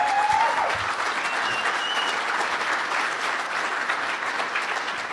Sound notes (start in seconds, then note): 3.0 applause